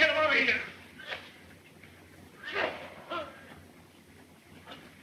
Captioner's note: Edmonds coughing